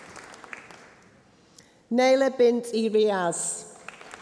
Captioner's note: applause